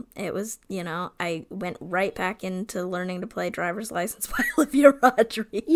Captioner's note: laughs